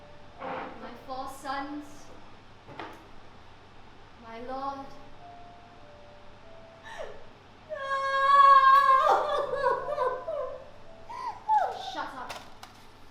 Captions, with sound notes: My four sons... My Lord. [Opal screams] Shut up.